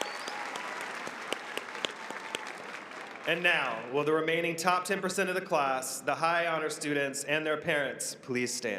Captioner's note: applause